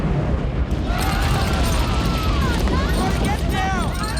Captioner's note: all exclaim